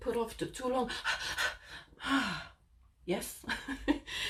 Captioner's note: blonde woman breathes rapidly